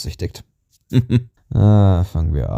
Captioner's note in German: kurzes lachen